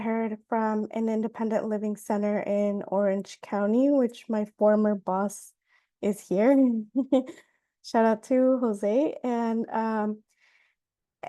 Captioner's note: laughs